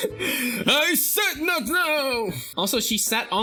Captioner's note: chuckles; mocking